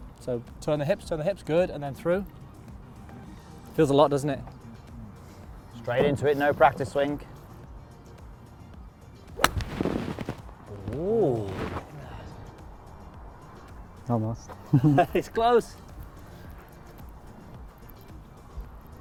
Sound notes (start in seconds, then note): 9.3 golf club smacks; 10.9 instructors ooh; 14.6 laughs